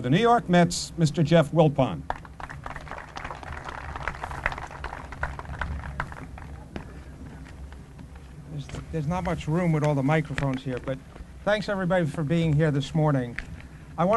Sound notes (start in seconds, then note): 2.0 applause